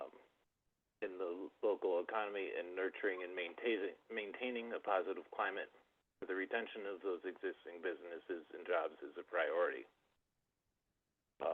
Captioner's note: by phone; by phone